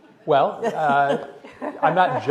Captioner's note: laughter